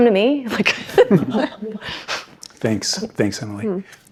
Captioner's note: laughs